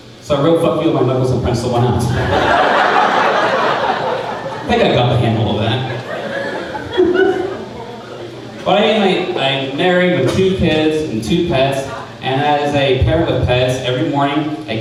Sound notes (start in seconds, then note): 2.5 crowd laughing